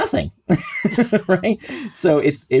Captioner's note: laughs